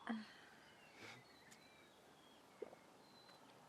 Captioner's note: birds chirping